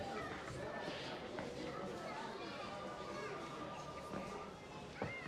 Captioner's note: children chattering